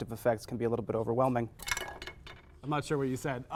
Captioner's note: cup holder cover clatters on desk